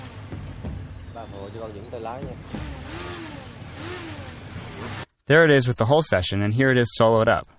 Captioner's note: motorcycle revving; vietnamese dialogue